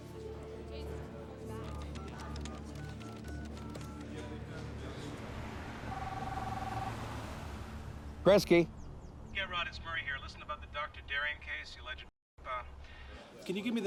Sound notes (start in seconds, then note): 1.6 keypad beeps; 5.8 cellphone ringing